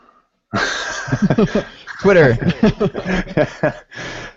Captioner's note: laughing